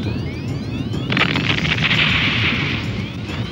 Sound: explodes

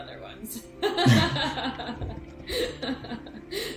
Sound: all laughing

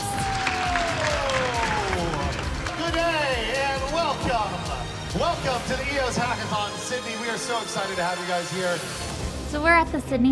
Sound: applause

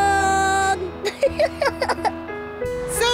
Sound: giggles

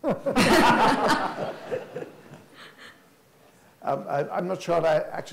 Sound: everyone laughs

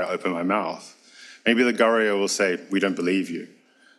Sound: speaks foreign language

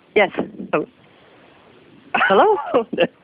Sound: laughing

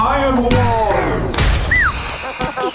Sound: crash

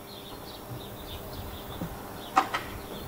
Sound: soft chirping of birds

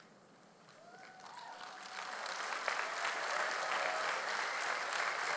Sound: audience applauding

